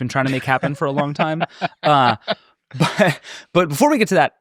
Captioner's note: laughing